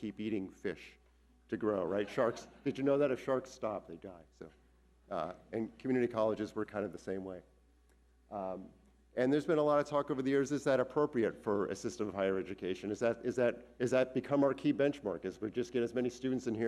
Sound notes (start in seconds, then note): 1.8 audience laughing